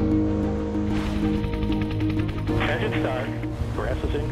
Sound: random machines operate; helicopter whirring

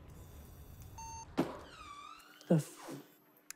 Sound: machine beeping

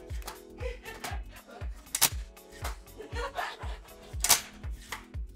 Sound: laughs

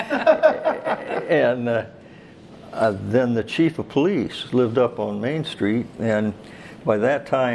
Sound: all Laugh

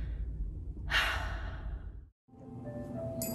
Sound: sigh

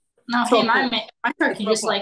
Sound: faintly speaking

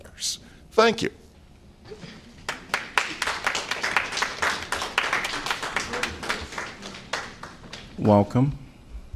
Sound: applause

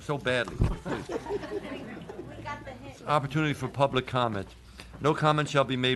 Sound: laughter

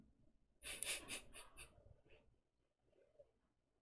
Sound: chuckles

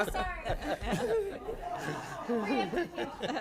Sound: chuckling

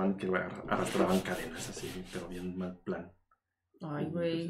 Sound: scratches table

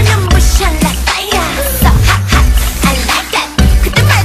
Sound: tssssh

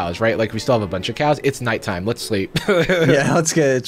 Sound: laughing

